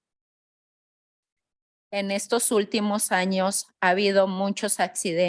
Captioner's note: speaking in Spanish